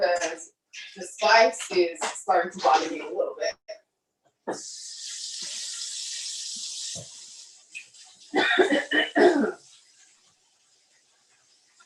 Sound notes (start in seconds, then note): 4.4 water running; 8.3 coughing